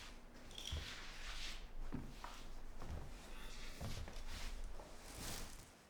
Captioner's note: Claire's feet shuffle